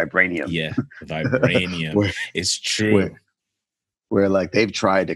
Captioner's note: laughing